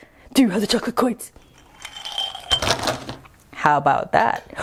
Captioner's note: chocolate coins fall